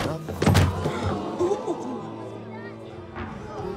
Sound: gasps

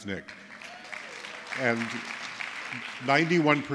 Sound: applause

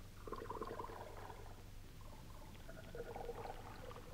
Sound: water gurgling

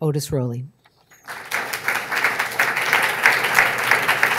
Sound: audience clapping

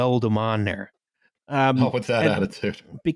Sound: barely not laughing

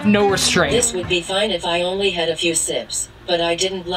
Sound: robot Voice

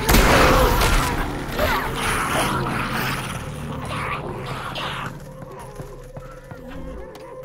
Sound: zombie pain

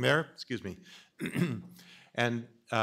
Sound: clears throat

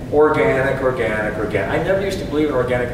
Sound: none

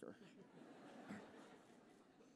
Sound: laughter

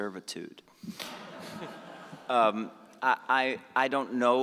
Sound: audience laughing

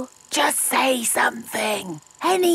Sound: camera whirring; whispering

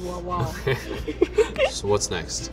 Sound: laughing

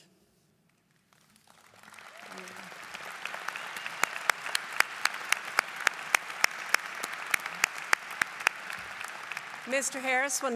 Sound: applause

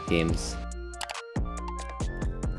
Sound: click

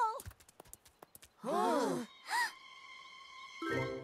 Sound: gasping

